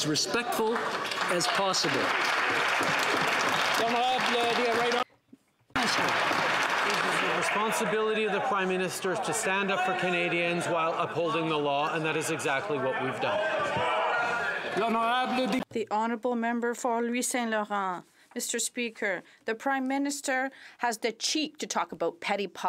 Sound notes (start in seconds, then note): 5.7 some Applause